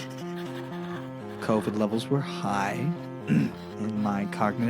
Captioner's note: clears throat